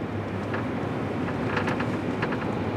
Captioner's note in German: Knarzende Laute